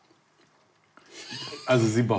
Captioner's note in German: lacht